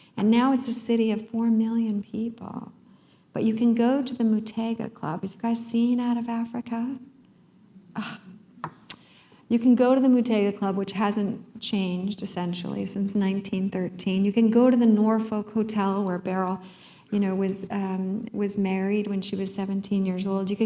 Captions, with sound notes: And now it's a city of 4 million people. But you can go to the Muthaiga Club. Have you guys seen "Out of Africa"? [sigh] You can go to the Muthaiga Club, which hasn't changed, essentially since 1913. You can go to the Norfolk Hotel, where Beryl was married, when she was 17 years old.